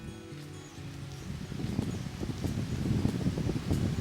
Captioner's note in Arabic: تغريد الطيور